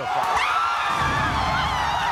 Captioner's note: cheering; screaming